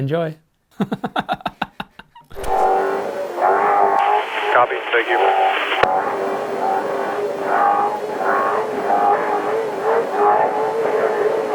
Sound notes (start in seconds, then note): 0.7 laughs; 5.8 car engine revving